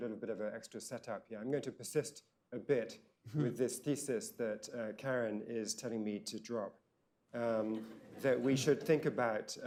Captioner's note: laughter